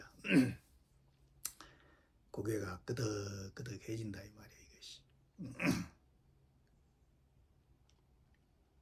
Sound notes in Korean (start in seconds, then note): 0.2 목을 가다듬음; 5.4 목을 가다듬음